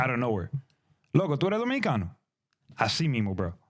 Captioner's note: speaking In Foreign Language